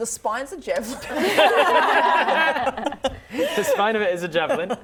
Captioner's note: laughing